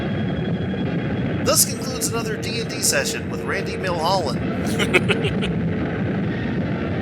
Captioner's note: laughs